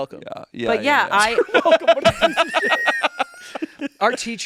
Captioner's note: everyone laughing